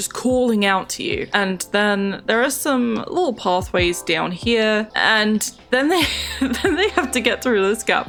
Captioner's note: laughs